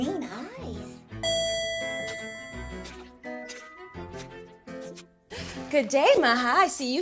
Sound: upbeat music; elevator bell rings

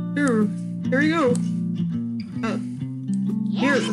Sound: weird voice

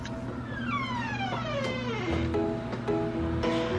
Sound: door creaking; playful instrumental music

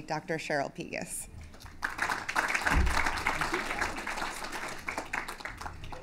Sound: applause

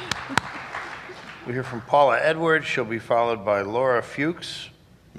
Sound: applause

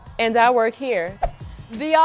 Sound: whoosh

